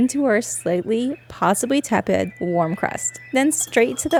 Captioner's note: oven beeping, cockatiel singing